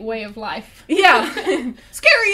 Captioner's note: laughs